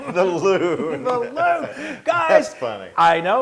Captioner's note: laugh